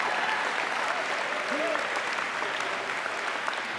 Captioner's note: applause